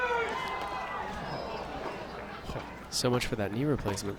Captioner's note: crowd cheers